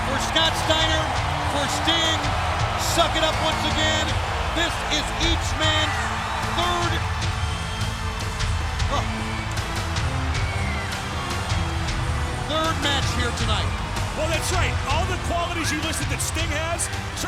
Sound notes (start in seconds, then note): 7.1 crowd cheering; 7.1 upbeat music; 9.5 crowd cheering; 9.5 upbeat music